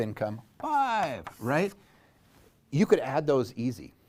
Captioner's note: pen knocking